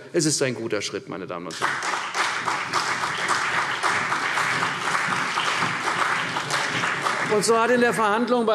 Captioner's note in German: Beifall CDU und BÜNDNIS 90/DIE GRÜNEN